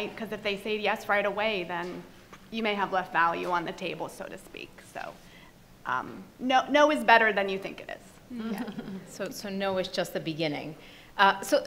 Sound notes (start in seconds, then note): 8.5 panelists laugh